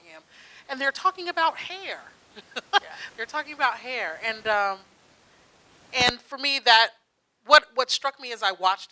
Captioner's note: laughs